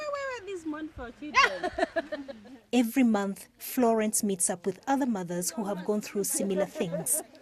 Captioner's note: laughing